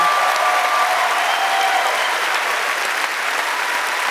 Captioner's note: cheers and applause